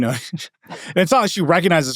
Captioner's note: laughing